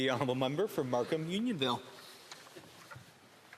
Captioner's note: speaking French